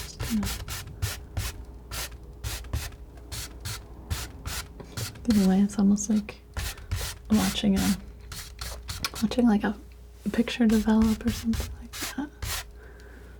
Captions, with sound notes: Just kind of. (scratching) In a way, it's almost like watching a, watching like a picture develop or something like that.